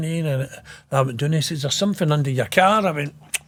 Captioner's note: none